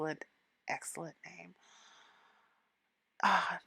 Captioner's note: none